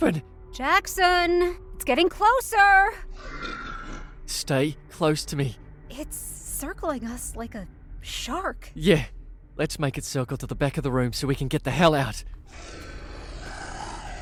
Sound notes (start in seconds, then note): 3.1 growling; 12.5 snarls